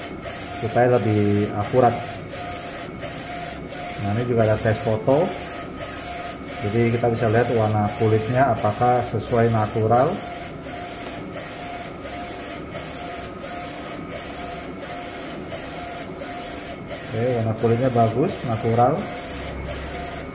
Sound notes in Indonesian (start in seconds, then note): 0.0 suara mesin printer